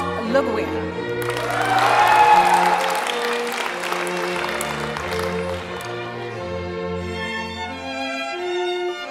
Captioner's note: applause